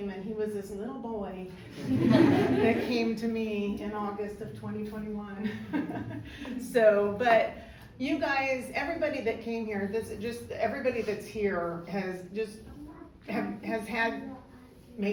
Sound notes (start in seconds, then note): 1.7 crowd laughs; 6.1 laughs